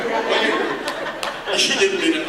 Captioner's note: laughter